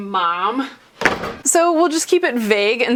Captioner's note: door slam